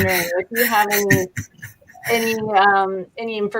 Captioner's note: laughing